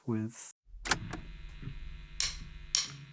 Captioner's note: tape clicking; drumsticks banging